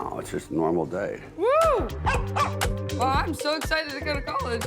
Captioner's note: dog barking